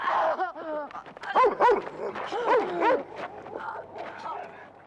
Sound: barking

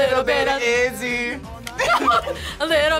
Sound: both laugh

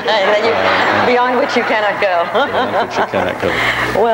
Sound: audience laughs; laughs

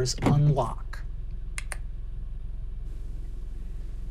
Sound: clicking

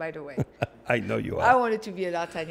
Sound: chuckles

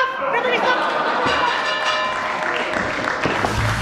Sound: gong

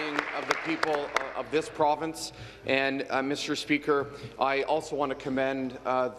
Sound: applause

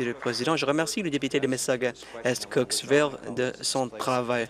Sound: applause

